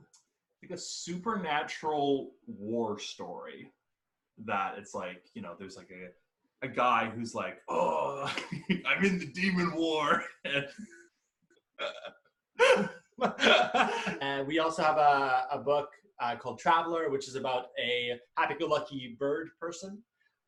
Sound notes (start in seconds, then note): 7.7 in a gruff voice; 10.7 both laugh